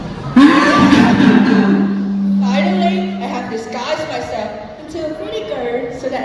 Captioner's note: super evil laugh